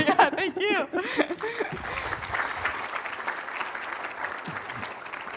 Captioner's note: applause